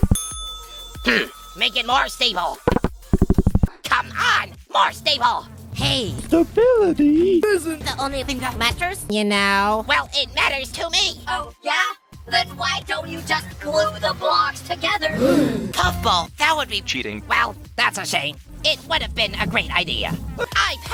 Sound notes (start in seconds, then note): 15.2 gasp